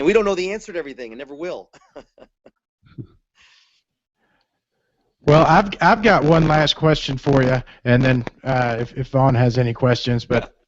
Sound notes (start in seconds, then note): 4.3 laughs